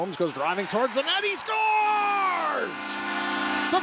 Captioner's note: shouting; crowds cheering